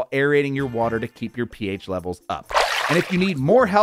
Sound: water burbles

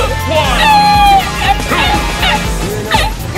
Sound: risitas laughs

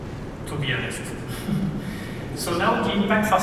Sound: laughs

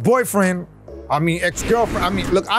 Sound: picture whooshes

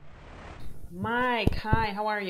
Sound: sweeping swoosh

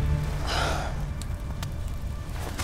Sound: Ren sighs

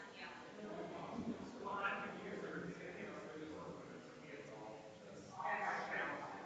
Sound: people chattering distantly continues

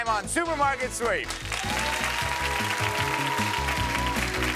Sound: audience applauding

